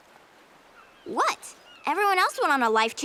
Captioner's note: none